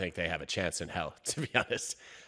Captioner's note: chuckles